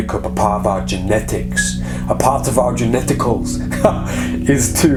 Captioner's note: laughing